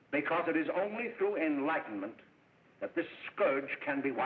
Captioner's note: none